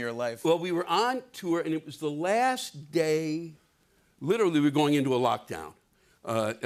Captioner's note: none